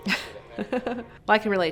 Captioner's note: laughing